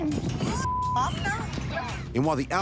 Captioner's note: beep